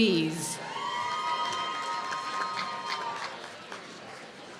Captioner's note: applause